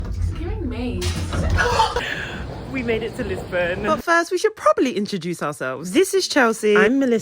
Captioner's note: gasp